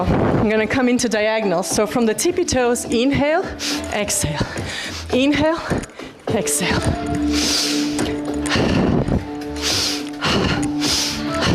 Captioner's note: snorts